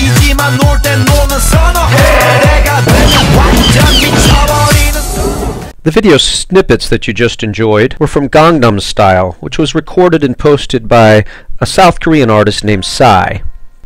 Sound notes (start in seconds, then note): 0.0 singing in Korean; 1.9 Chewbacca growling; 2.8 gun firing